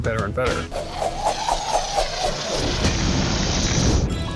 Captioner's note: swoosh, swoosh, swoosh; boom